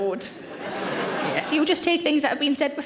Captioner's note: audience laughs